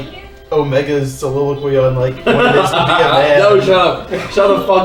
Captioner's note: laughs